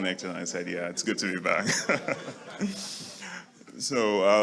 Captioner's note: laughs